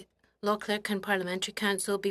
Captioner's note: speaking French